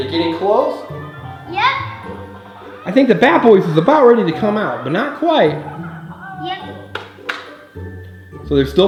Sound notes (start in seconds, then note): 0.0 mellow music; 5.8 Hatchimal muttering; 7.8 mellow music